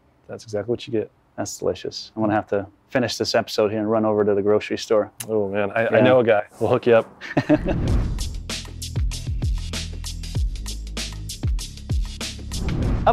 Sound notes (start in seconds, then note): 7.2 laughs; 7.6 upbeat music